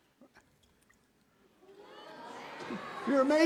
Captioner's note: audience exclaiming Oooh!